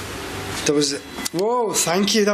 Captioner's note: machine beeping